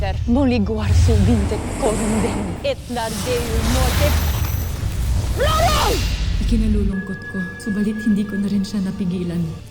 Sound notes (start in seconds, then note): 4.7 evil energy whoosh & crackle